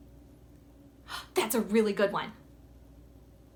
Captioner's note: gasps